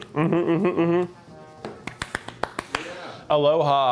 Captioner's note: claps